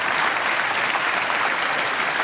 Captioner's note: applause